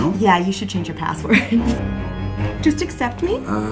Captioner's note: laughs